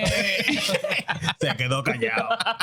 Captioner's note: laughter